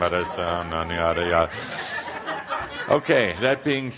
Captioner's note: laughter as mumbles the words